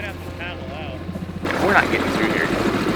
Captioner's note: engine growling